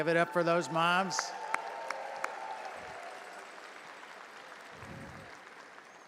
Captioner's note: audience applauding and cheering